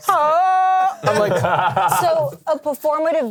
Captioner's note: laughs